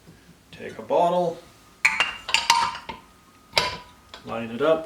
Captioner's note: clanking